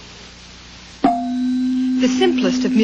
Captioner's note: tone played